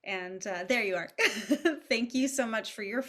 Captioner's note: chuckles